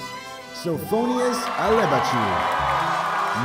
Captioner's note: applause